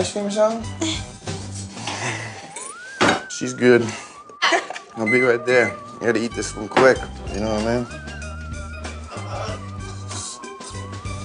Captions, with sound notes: - Some ice cream or something? She is good. (laughing) - I'll be right there. I've got to eat this real quick, you know what I mean.